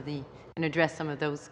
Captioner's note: speaking french